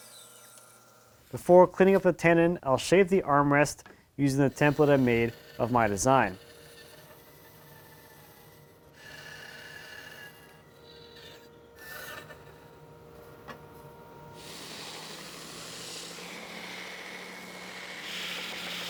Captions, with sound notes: Before cleaning up the tenon, I'll shape the armrest using a template I made of my design. (saw buzzing) (sander buzzing)